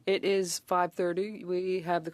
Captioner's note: speaking French